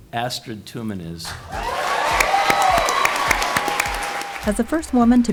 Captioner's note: cheers, applause